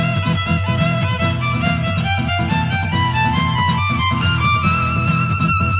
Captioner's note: the other moth honks near